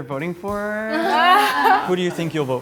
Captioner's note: all laughing